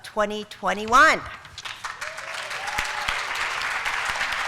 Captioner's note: applause